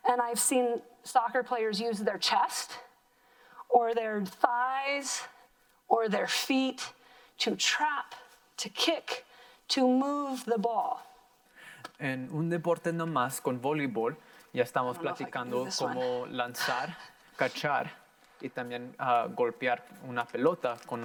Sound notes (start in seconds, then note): 12.0 in foreign language; 17.2 laughs; 17.6 in foreign language